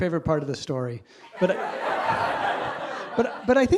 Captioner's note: audience laughs